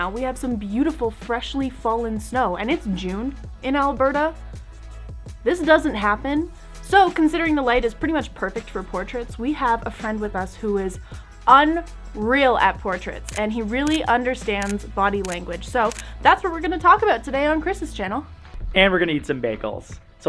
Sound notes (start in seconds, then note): 13.1 camera snaps pictures